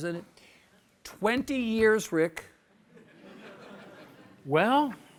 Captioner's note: audience chuckles